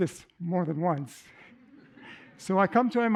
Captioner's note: laughter